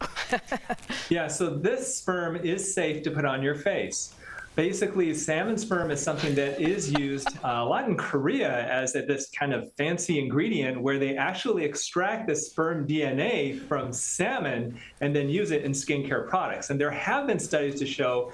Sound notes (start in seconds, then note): 3.1 laughter